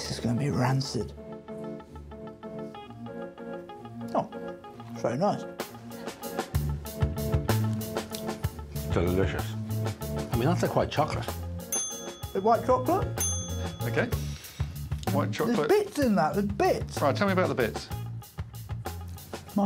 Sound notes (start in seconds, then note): 12.4 buzzer dings